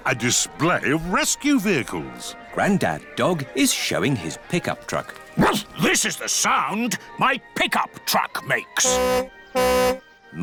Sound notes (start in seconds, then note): 5.4 barks; 8.8 tooting